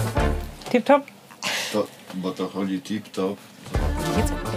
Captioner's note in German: Er redet polnisch